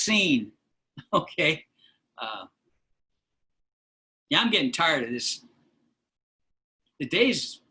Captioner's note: laughter